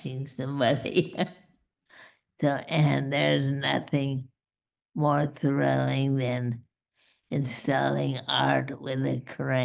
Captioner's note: laughs